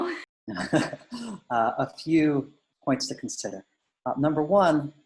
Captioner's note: laughs